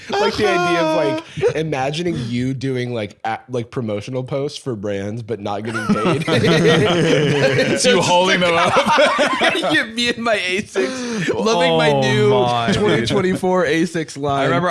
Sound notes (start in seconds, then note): 6.5 all laughing